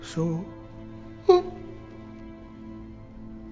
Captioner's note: crying